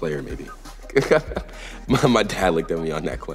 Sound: laughs

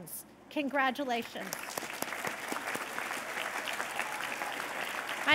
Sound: applause

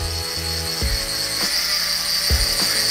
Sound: mechanical Whirring

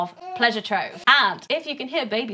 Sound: baby cooing

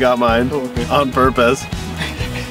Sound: laughs

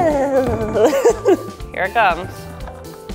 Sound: laughing

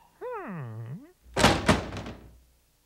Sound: thud

